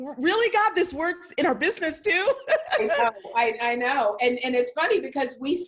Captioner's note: laughs